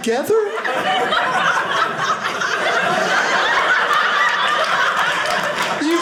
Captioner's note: audience laughing